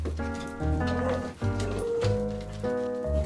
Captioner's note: barking sounds from outside